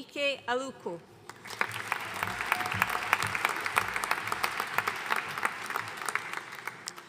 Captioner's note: audience cheering and applauding